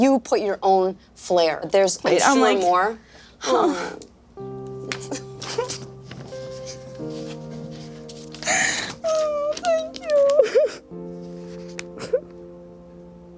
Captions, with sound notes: but you put your own flare. There's I'm sure more. (sobbing) (gentle piano) - Oh, thank you! (sobbing)